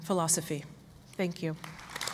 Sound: applause

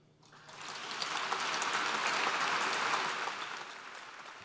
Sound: applause

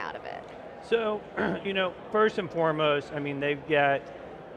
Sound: clears throat

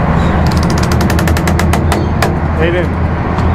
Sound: boat creaks

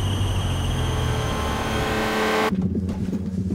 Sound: horn blares; tense music

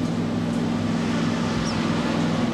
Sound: none

